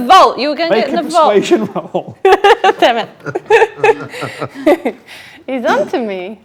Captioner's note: laughs